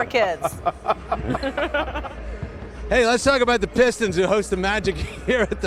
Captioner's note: laughter